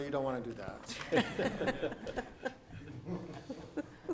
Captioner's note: laughing